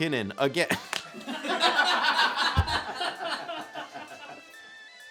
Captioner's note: all laughing